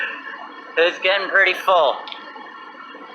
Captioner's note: chuckles